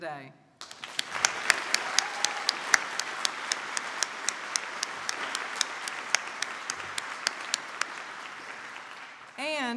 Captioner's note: applause